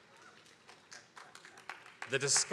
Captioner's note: attendees applauding